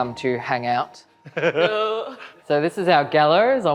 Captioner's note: groaning and laughing